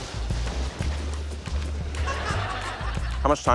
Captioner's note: laughter